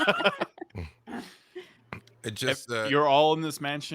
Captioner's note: laughs